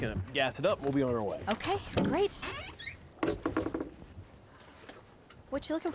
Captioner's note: creaking sound